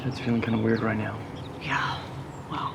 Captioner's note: sighs